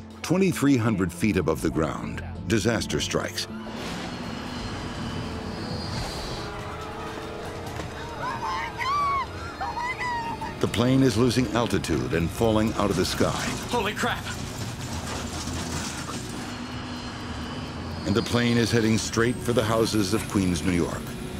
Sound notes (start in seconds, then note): 4.4 engine humming; 15.0 engine humming; 15.0 plane rattling